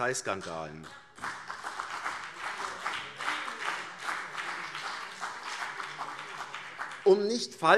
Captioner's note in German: Beifall CDU und vereinzelt BÜNDNIS 90/DIE GRÜNEN - Zurufe SPD